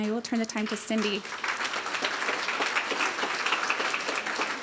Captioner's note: applause